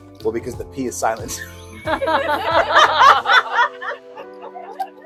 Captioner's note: laughter